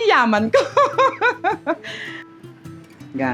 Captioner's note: laughs